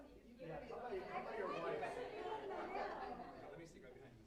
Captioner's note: indistinct chatter